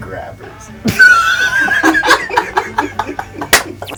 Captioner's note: laughing